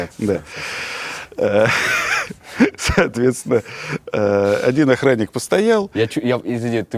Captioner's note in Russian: Смеясь